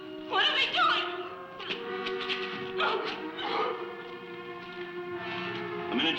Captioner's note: whimpers